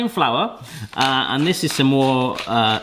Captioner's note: pepper grinding